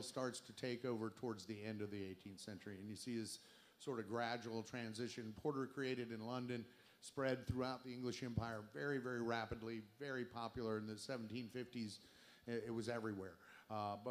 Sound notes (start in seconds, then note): none